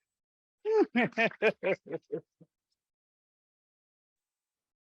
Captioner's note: laughs